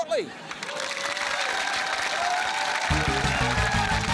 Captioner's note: cheering, applause